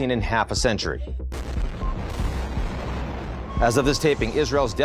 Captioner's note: explosion